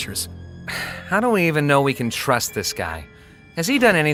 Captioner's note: sighs